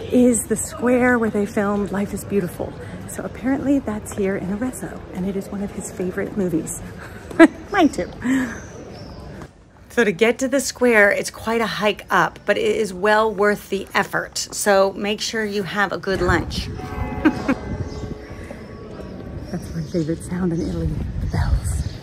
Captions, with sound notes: is the square where they filmed "Life is Beautiful." So apparently that's here in Arezzo and it is one of his favorite movies. (laughs) Mine too. So to get to the square, it's quite a hike up, but it is well worth the effort, so make sure you have a good lunch. (bells ring) That's my favorite sound in Italy, the bells.